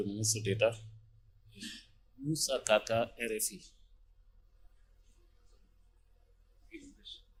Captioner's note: in French